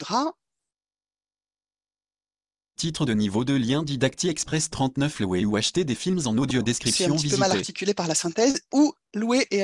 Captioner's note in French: synthèse vocale